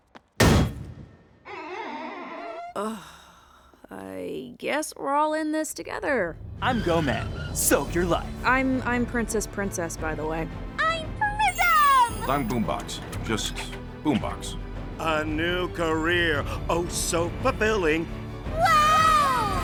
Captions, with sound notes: [THUD] [SQUEEEAK] Uhg- I guess we're all in this together. I'm Goman. Soak Your Life! I'm- I'm Princess Princess, by the way. I'm Prism! I'm Boom Box. Just Boom Box. A new career. Oh, so fulfilling. Wow!